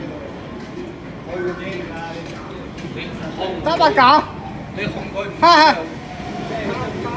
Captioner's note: weirdo shouting next to me